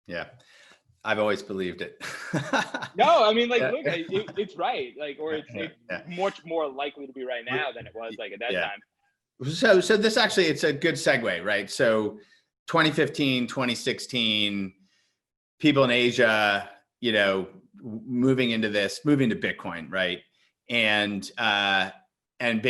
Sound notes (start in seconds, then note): 2.1 laughs